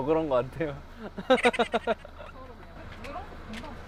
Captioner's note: kekekekeke